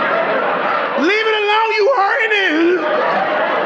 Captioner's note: audience laughing